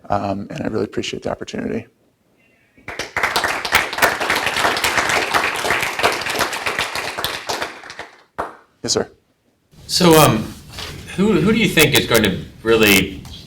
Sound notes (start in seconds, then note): 2.8 audience applauds